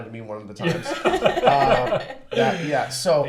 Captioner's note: laugh